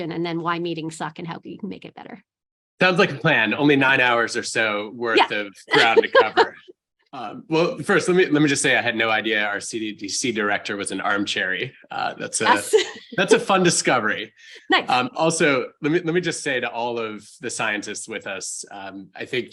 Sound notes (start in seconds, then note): 5.7 laughs